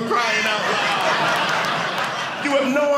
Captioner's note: audience laughing